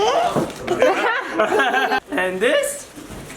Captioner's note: man and woman laughing